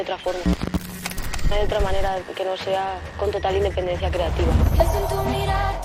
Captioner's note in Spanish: voz en off